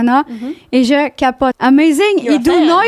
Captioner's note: in french